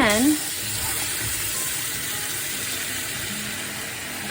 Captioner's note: tap water running